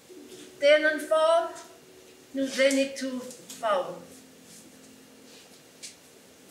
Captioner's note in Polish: Po irlandzku